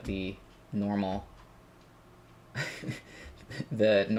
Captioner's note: laugh